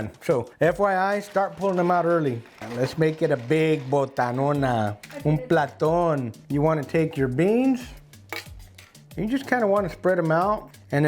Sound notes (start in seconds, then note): 3.8 speaks Spanish